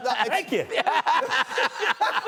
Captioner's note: laughter